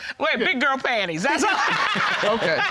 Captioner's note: laughing